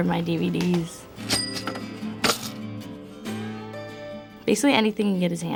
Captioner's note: cash register rings